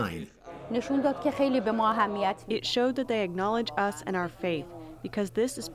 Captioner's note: through translator